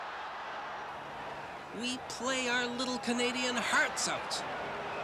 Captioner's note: crowd cheering